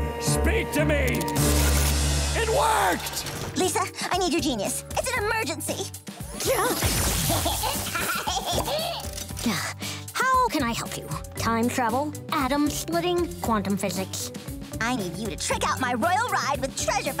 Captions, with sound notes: Karen. Speak to me. It worked! Lisa, I need your genius. It's an emergency. [laughing] How can I help you? Time travel? Atom splitting? Quantum physics? I need you to trick out my royal ride